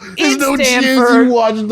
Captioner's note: laughing